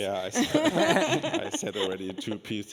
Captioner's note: laughing